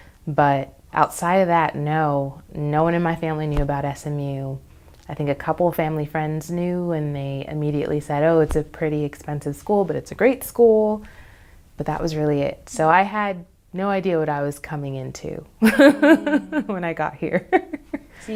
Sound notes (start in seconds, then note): 15.6 laughs